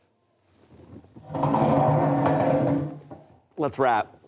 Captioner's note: chair scooting